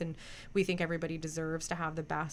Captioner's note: none